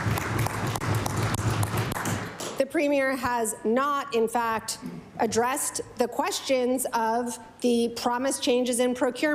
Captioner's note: applause